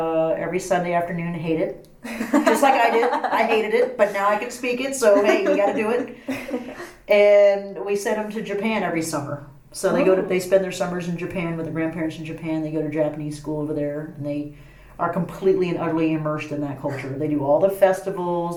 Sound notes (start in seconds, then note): 2.3 laughs